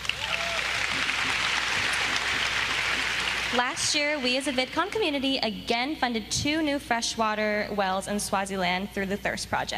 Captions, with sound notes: SAYING WE BRING OUR BEST TO THEM TONIGHT. [APPLAUSE] >> LAST YEAR, WE AS A VidCon